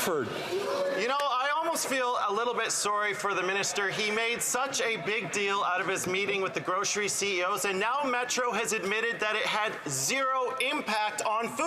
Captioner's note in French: voix de l'interprète